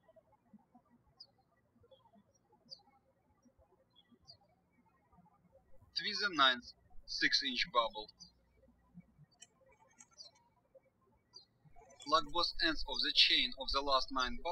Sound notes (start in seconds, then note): 0.1 birds chirping; 9.1 birds chirping